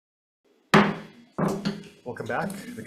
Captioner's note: gavel bangs